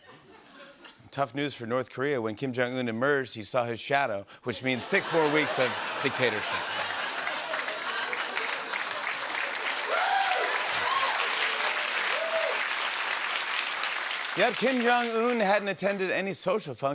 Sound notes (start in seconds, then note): 7.0 cheers and applause